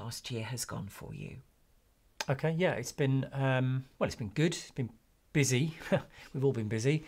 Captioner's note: laughs